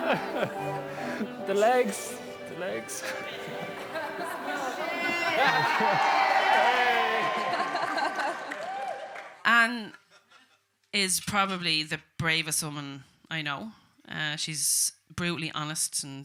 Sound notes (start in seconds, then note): 0.0 guests laughing; 3.0 couple laughing